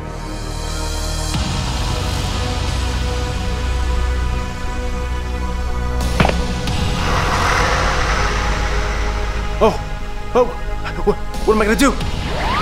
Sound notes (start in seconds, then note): 7.0 Pepsiman hisses